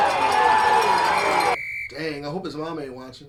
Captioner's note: whistle blows